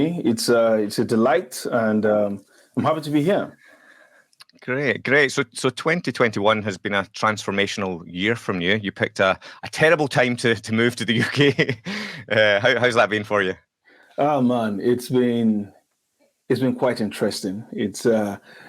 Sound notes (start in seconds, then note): 11.1 laughs